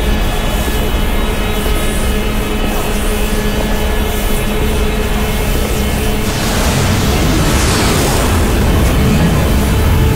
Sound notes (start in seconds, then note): 6.2 whooshing increases